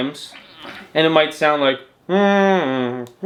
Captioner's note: humming